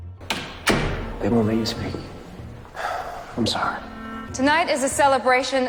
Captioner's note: voiceover